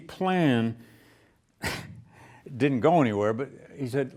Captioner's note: laughs